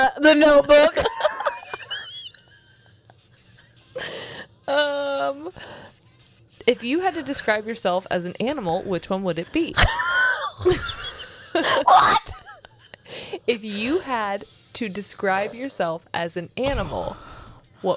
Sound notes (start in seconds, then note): 9.7 laughs